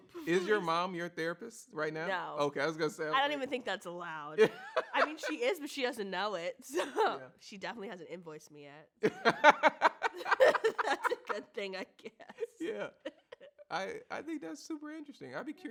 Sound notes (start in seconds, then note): 4.4 laughs; 9.0 both laugh